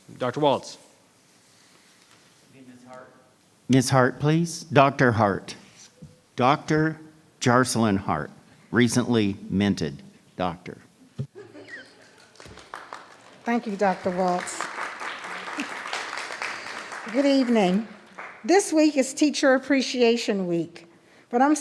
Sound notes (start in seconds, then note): 11.3 laughs; 14.9 applause